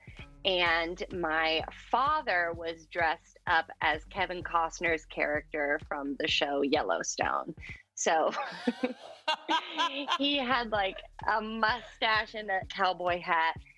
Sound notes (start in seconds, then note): 8.4 laughs